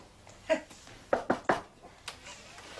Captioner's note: nana knocks on table